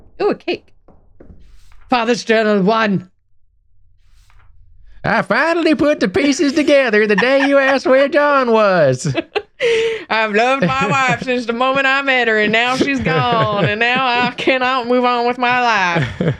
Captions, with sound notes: Oh, cake. Father's journal one. (heavy country southern accent) "I finally put the pieces together the day you asked where John was." "I've loved my wife since the moment I met her, and now she's gone, and now I cannot move on with my life."